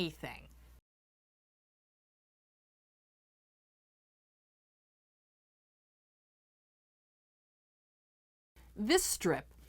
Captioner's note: no Sound Present